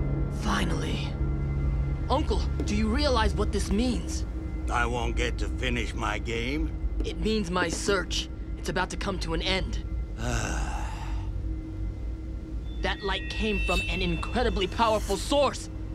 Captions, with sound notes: Finally! Uncle, do you realize what this means? I won't get to finish my game? It means my search... it's about to come to an end! [sighing] That light came from an incredibly powerful sauce!